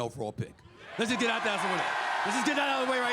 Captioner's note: crowd cheers